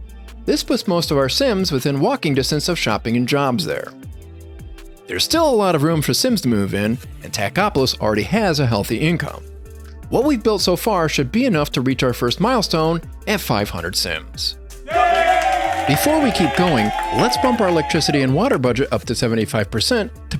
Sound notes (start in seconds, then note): 14.8 cheering